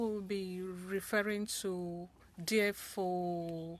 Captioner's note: speaking French